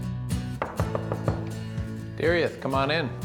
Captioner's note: knock at the door